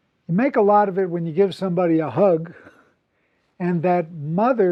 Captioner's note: laugh